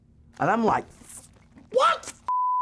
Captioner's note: beep